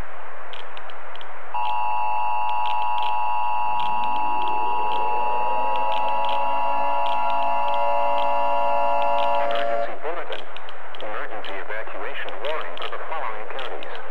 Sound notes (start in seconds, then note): 1.5 attention Tone